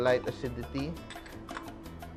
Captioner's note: clang